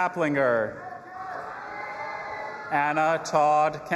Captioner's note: audience applauding and cheering